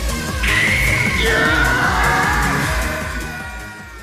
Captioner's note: scream